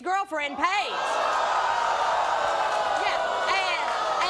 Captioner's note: audience gasping